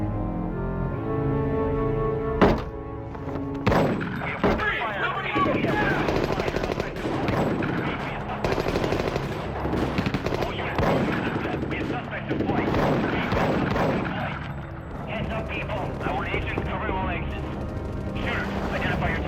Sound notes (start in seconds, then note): 2.4 door bangs; 3.6 gun fires; 8.2 guns firing